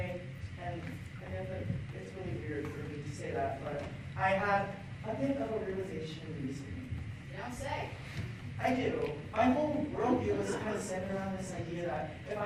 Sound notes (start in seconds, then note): none